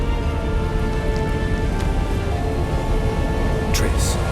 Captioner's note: magical hum continues